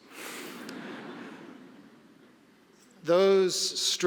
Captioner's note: audience laughing